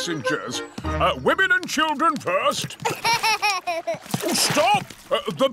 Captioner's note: laughs